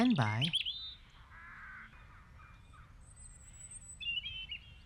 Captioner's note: birds chirping